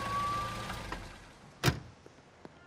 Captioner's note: engine idling; door shuts; footsteps